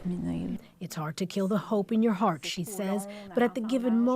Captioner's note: speaking French